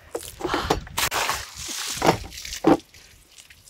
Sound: water splashes

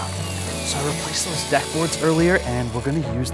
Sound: whispering

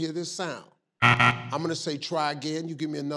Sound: buzzer buzzes

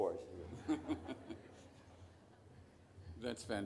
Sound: all laugh

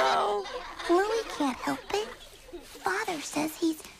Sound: other cygnets laughing; hushed tone

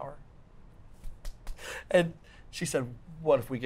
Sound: palm smacks

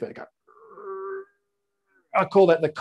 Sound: groaning

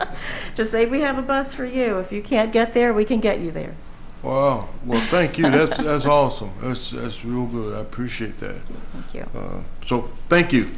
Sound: laughter

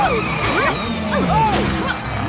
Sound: both grunting

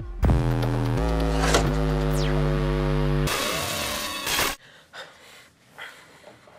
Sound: high-intensity bass music; blade whooshes

